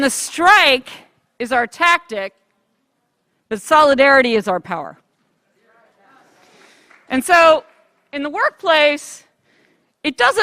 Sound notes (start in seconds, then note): 3.0 applause